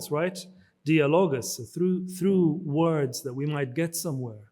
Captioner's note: speaks in foreign language